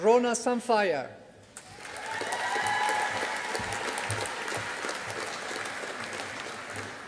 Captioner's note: audience applauding